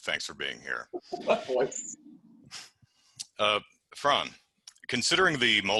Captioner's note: laughing